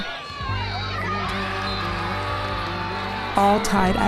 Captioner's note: players and spectators yell; slow music